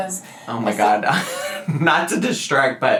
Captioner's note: laughs